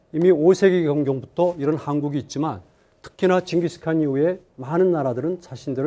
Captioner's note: speaking in Korean